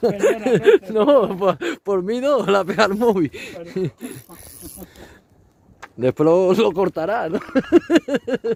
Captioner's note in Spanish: risas